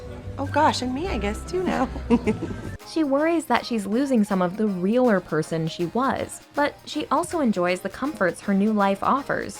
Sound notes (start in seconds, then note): 1.9 laughs